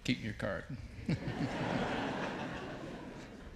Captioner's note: audience laughs